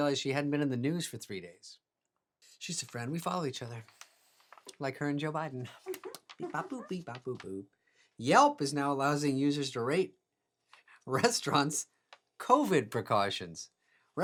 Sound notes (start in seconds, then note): 5.8 staff chuckling